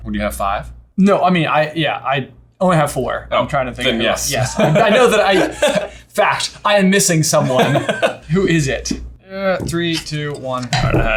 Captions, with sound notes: - What, do you have five? - No, I mean, I only have four. - Then yes. (laughs) - Fact, I am missing someone. Who is it? Three, two, one.